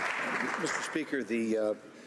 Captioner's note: some Applause